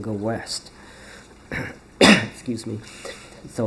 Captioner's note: coughs